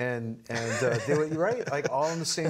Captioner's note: laughing